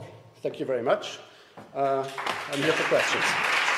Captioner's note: applause